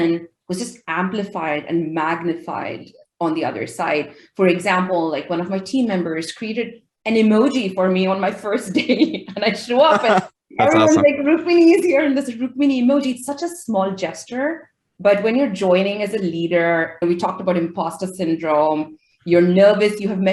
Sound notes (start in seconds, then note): 10.6 laughing